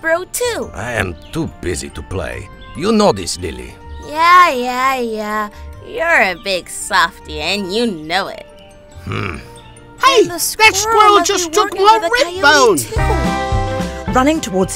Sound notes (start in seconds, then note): 9.0 Dexter grunts; 9.0 Suddenly they hear Percy scream